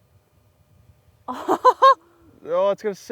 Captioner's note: laughs